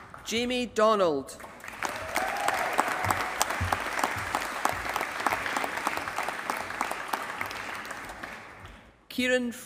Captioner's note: applause